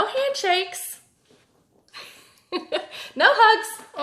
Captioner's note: laughs